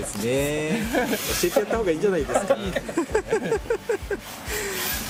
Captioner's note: laughs